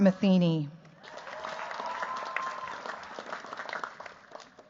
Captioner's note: cheers, applause